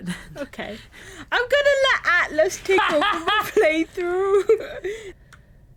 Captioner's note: laughs